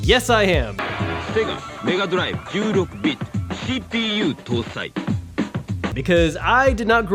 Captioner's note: in foreign language